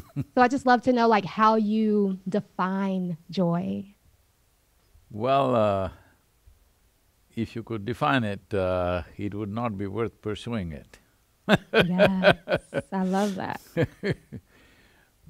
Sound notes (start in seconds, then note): 0.0 Sadhguru laughs; 11.5 laughs